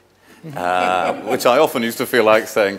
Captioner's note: audience laughing